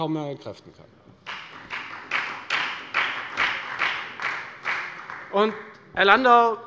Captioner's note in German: Beifall bei der FDP und bei Abgeordneten der CDU